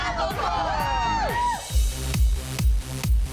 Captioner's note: cheering